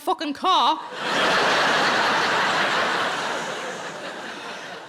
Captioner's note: audience laughing